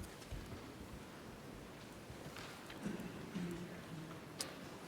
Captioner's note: none